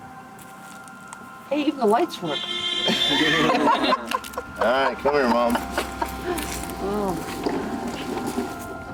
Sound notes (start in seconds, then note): 2.2 Beetle horn honking; 2.8 family laughing